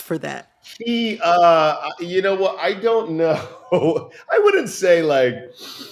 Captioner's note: laughter